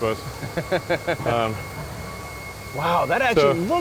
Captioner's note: laughs